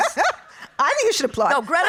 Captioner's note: laughing